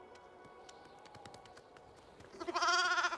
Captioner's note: bleating